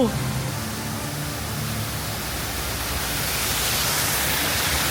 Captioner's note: water gushing